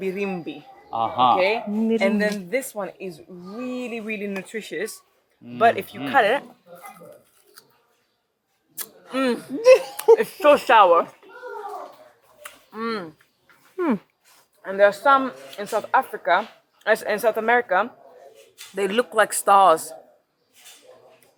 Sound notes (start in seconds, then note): 6.7 fruit crunches; 8.7 lips smack; 9.3 laughs